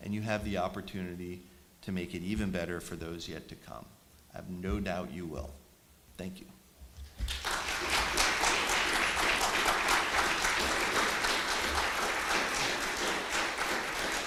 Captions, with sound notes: and you have the opportunity to make it even better for those yet to come. I have no doubt you will. Thank you. [APPLAUSE]